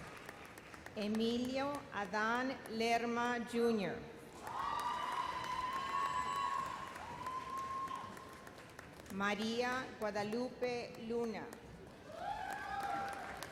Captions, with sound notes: Emilia Adan Lerma, Jr. (vigorous cheers) Maria Guadalupe Luna. (audience cheers)